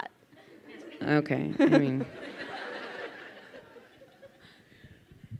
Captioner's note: crowd laughing